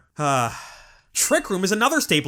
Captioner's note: sigh